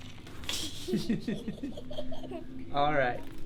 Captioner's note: laughing